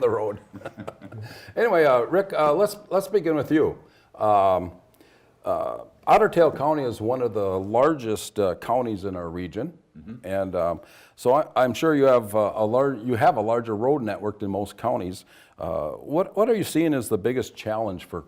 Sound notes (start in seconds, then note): 0.4 laughs